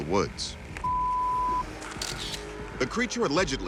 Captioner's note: camera shutter clicks